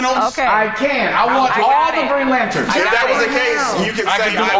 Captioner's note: overlapping chatter